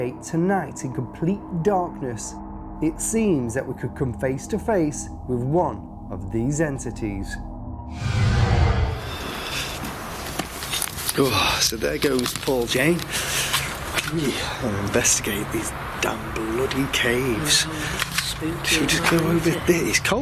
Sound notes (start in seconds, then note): 7.9 whoosh; 9.5 rustling